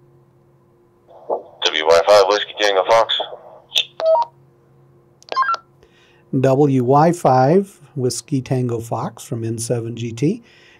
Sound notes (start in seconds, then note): 3.7 radio beeping